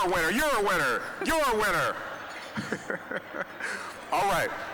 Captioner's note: chuckling